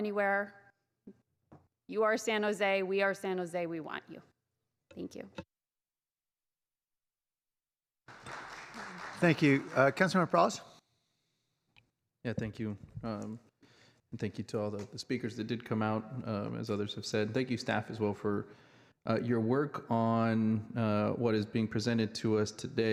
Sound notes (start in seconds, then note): 11.8 clapping